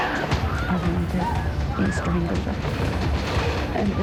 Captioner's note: woman screaming; speaking emotionally